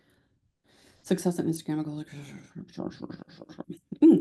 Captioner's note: mumbles while reading